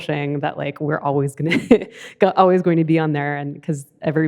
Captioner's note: laughs